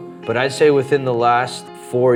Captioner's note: none